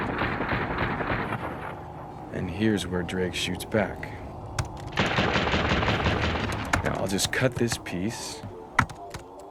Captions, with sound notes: (gun firing) And here's where Drake shoots back. (gun firing) Now I'll just cut this piece,